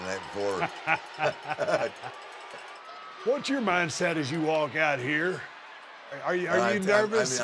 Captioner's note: laugh